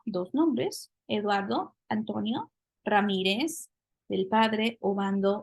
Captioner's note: spanish; spanish